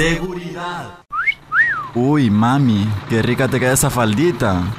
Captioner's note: whisteling